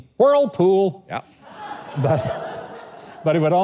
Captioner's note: laughs together with the audience